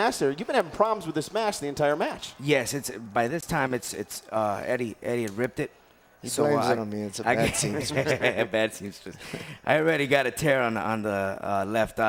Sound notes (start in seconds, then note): 7.3 laugh